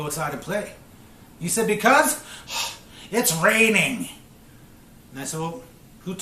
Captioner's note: sighs